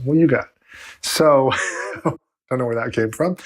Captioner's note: laughs